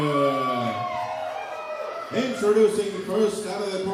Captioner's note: crowd cheering